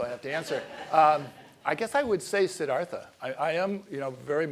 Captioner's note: laugh